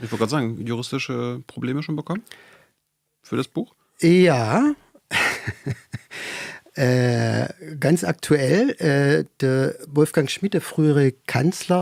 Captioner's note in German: gelächter